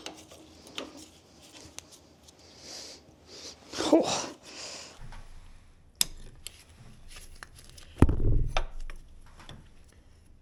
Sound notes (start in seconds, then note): 3.9 gasps